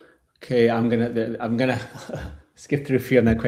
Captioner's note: chuckles